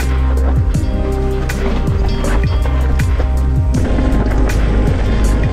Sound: mellow synth music continues; gravel crunches softly

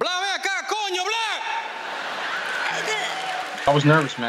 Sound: laughter

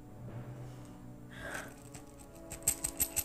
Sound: exhales

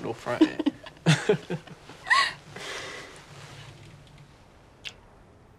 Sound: Jake and Jemma laughing

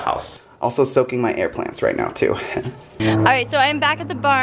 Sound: giggle

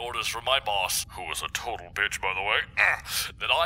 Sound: grunts

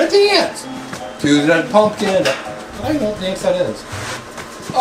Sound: mumbles

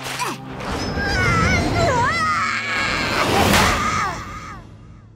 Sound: screaming

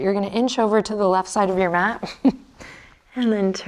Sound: chuckles

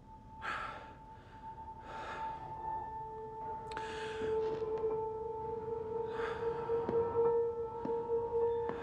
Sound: breathing heavily

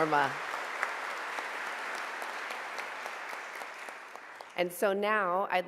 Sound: audience applauding

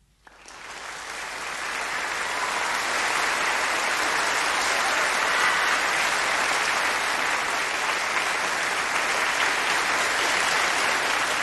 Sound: applause

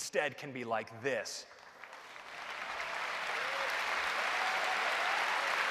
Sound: applause

